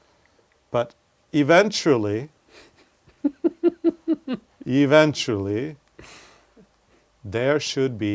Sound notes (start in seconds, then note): 3.1 laugh